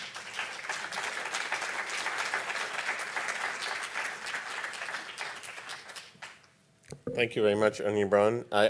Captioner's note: applause